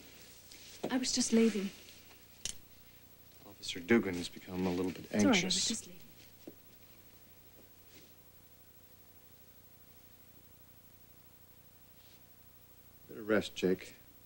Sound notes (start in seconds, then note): none